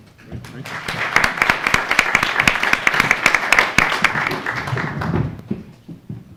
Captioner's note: attendees applauding